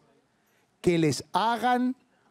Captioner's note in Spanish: none